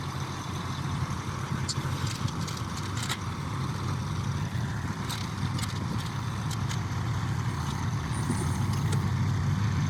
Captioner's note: engine noise